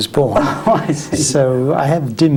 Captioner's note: laughs